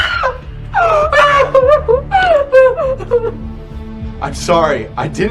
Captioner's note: Lucy screams; Lucy sobs